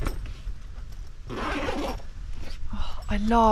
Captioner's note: zipper